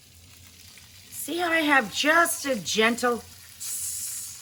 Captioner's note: mimics sizzling